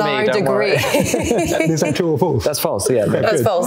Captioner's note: all laughing